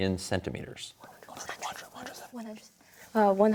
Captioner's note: whispers